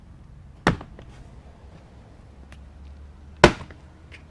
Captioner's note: hinges clanging